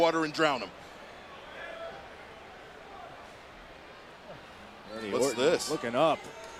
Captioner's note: applause